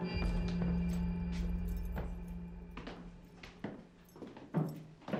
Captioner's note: footsteps approaching